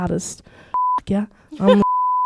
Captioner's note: beep